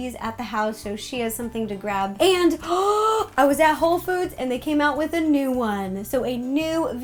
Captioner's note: gasps